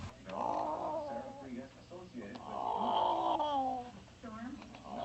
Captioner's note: elderly woman groans